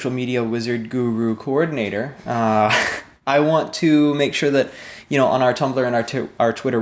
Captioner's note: laughs